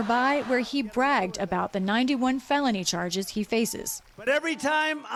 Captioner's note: crowd chanting "we want trump"